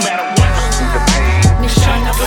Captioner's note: scratches